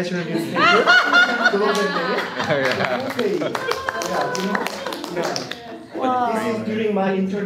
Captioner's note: laughter and applause